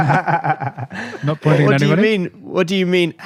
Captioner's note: laughter